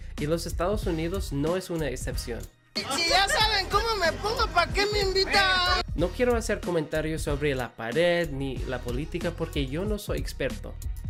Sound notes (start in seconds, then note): 5.4 v drunk